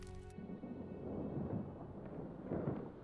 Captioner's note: thunder rumbling